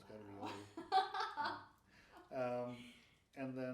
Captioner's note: laughing